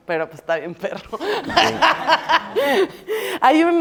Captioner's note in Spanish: Risas